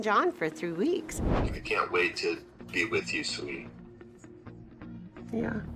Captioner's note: on phone